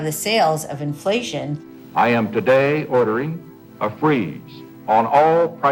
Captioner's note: soundbite of archived recording